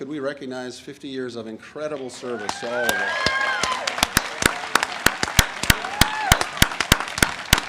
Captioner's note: audience applauds and cheers